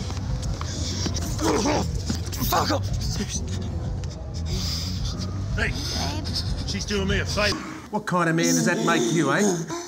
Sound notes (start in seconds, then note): 1.0 grunts